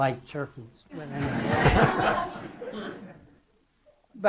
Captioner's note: laughter